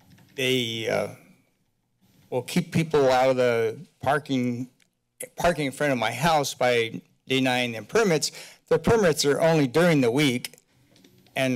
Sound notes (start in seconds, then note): none